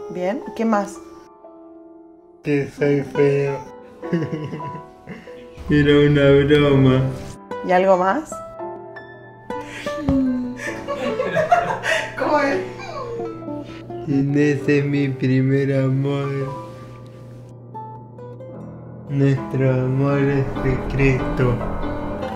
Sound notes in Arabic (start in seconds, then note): 4.0 يضحك; 9.6 التنهدات; 11.8 تنهد